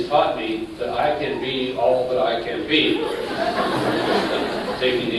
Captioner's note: laughter